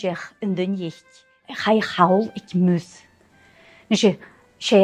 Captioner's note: storytelling in Gaelic